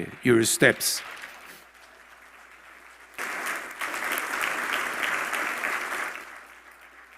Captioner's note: applause